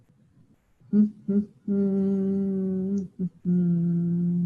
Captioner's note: humming